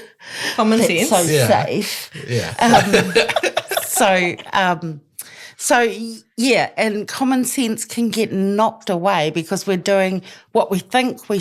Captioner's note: laughs